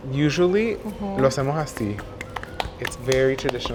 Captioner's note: speaking Spanish; hands clapping together